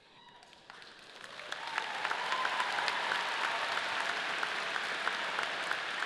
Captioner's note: audience cheering and clapping